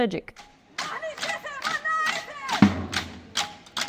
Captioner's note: protestors chanting in Maltese